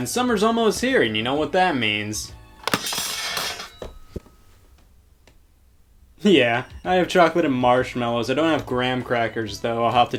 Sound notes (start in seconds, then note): 2.6 appliance clatters